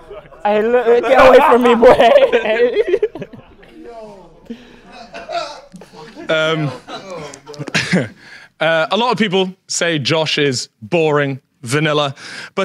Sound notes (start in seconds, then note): 1.9 Sidemen laugh; 4.5 audience laughs